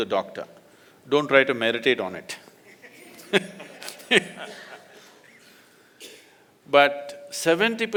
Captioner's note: laughter